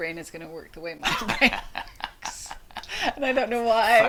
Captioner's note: laughter